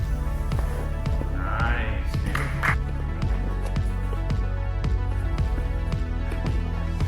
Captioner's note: applauding